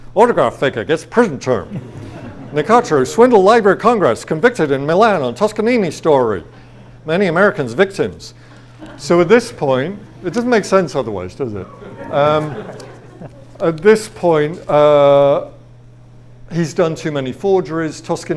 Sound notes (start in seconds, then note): 1.6 audience laughs; 11.4 audience laughs